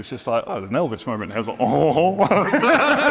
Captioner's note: imitates Elvis singing; both laugh